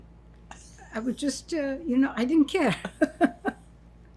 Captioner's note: laughing